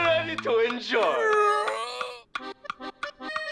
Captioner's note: yawns